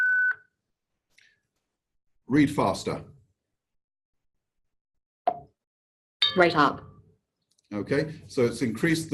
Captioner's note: OrCam makes low beep